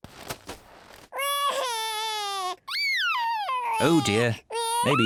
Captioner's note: crying